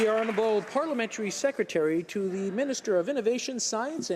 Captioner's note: some Applause